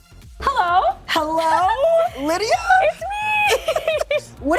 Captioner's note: laughs